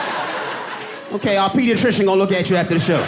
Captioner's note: audience laughing